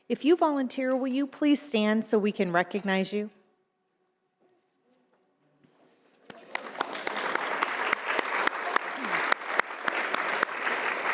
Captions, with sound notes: If you volunteer, will you please stand so we can recognize you? (audience applauding)